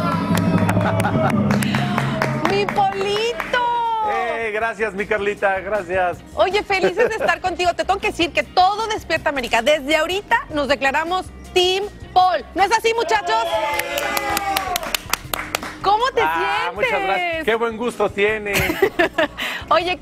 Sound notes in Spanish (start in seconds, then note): 4.4 aplausos; 6.8 risas